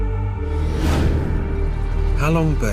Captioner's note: loud whoosh